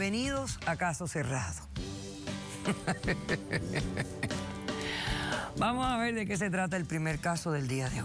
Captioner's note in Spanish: risas